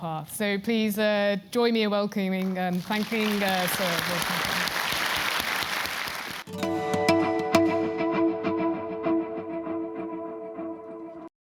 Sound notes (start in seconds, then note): 6.2 applause